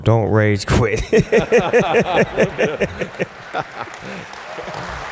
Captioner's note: laughter